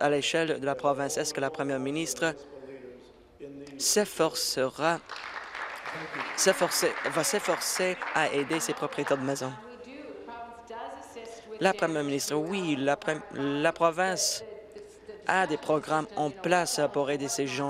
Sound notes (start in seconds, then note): 8.2 applause